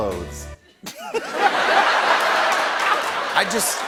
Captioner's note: laughter